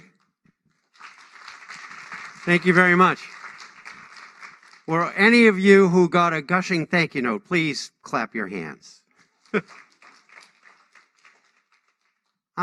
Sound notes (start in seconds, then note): 6.1 applause